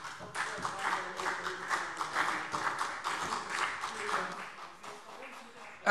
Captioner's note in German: Beifall CDU und BÜNDNIS 90/DIE GRÜNEN - Zurufe SPD und DIE LINKE